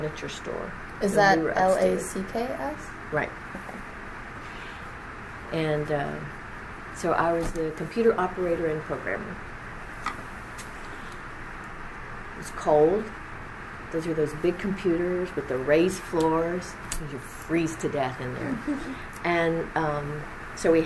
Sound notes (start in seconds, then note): 18.4 laughs